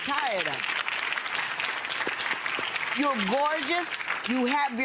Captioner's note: audience clapping